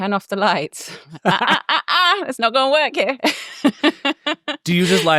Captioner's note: laughs